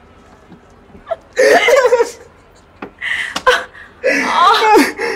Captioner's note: Divyanka and Ranbir laughing